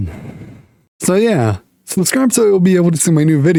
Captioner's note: throat clear